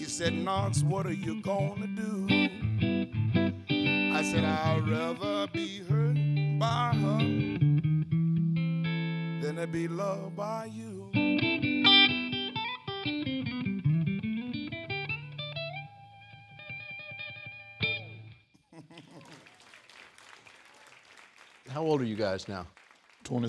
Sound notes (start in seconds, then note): 11.9 song ends; 16.7 applause